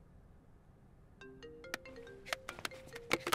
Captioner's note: Phone ringing